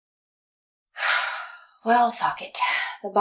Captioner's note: long silence; sighs